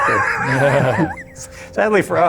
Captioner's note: all laughing